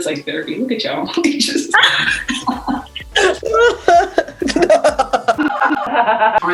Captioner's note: lots of giggling